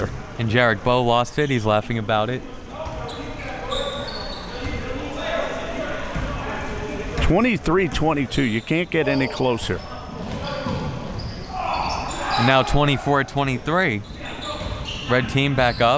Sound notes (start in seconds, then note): 3.0 audience chattering and yelling